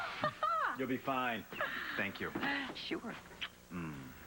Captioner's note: emily laughs